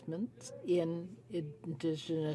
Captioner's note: speaking French